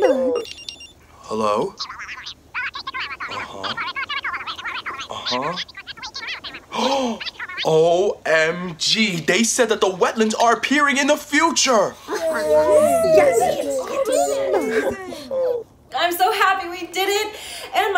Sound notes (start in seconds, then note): 2.3 parents speak gibberish; 12.1 everyone cheering